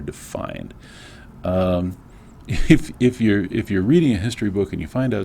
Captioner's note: laugh